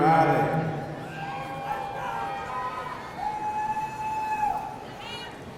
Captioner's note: audience cheering